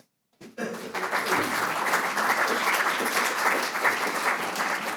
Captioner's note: audience applauding